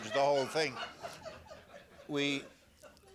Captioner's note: laughter